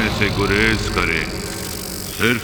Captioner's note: bulb crackling